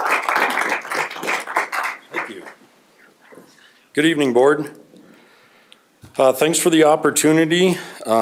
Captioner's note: applause